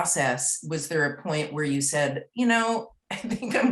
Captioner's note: laughs